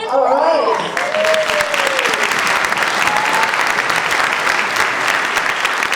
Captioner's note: audience applauds